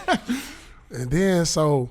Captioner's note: laughing